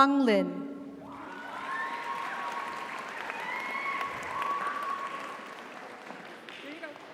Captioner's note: audience cheers; audience applauds